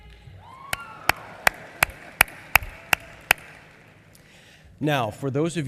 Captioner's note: applause